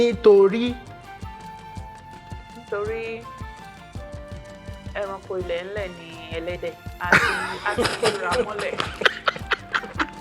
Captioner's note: laughs